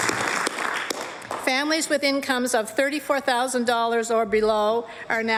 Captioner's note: applause